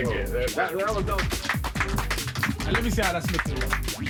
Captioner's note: applause